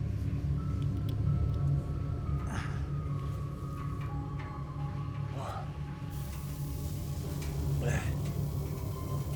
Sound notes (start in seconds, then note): 2.9 Tector and Darlus groaning